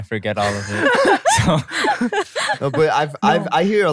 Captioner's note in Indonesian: tertawa